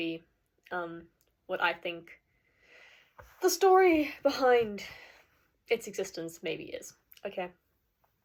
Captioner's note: deep breath